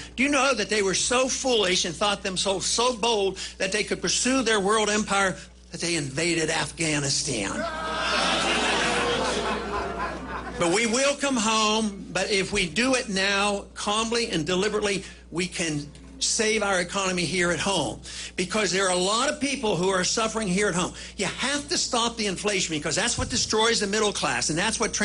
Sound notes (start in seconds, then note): 8.7 booing; 9.7 laughter